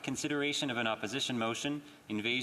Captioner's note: speaking French